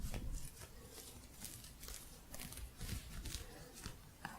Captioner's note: gentle scratching